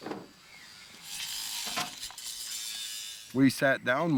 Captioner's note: power tools buzzing